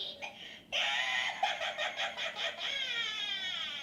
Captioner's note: cackling